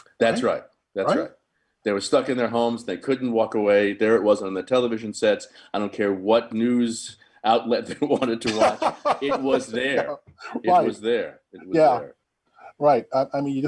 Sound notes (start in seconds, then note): 7.8 laughing